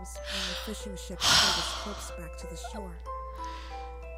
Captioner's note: deep sigh